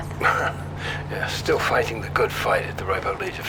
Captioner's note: chuckling